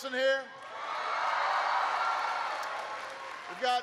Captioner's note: applause